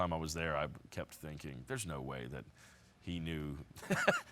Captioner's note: laughs